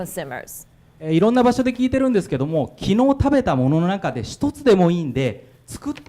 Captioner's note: speaking foreign language